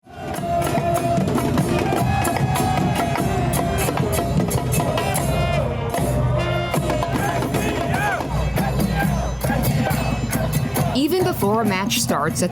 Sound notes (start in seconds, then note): 0.9 crowd chanting; 8.8 crowd